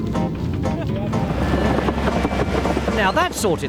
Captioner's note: digger rumbling